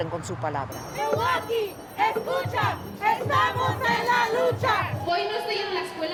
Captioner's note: chanting in foreign language; speaking in foreign language